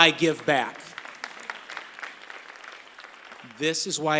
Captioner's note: applause